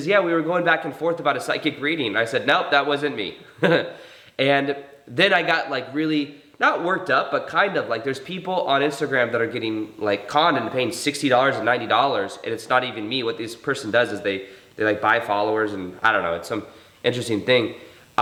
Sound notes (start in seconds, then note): 3.4 chuckles